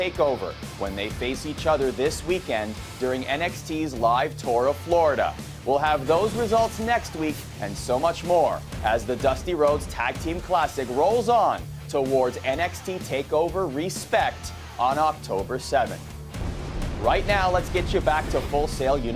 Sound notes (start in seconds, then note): none